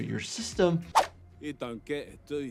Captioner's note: screen swooshing